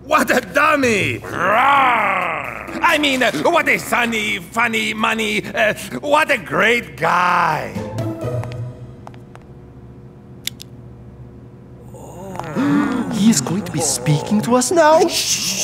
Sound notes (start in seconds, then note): 1.2 Blok growls